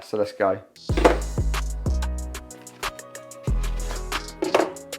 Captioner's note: container clatters